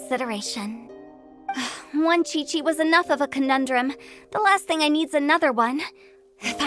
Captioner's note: sigh